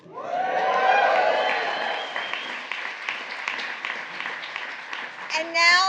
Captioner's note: applause